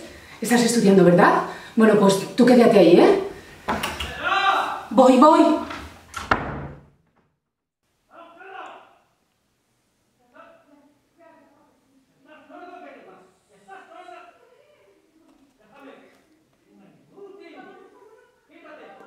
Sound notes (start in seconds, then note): 3.5 dad shouting again